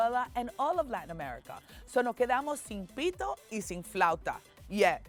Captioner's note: speaking Spanish